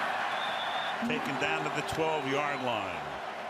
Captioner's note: pa announcement